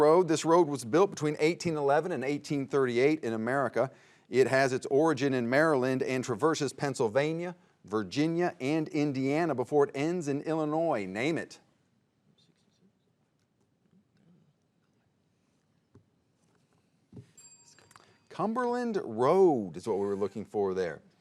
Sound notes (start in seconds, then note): 12.3 players whispering; 17.3 bell dinging